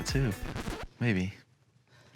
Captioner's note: record scratching